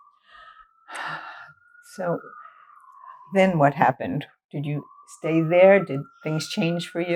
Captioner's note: sighing